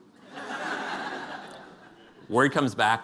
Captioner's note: laughter